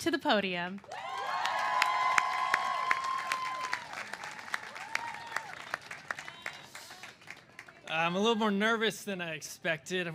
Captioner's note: cheers and applause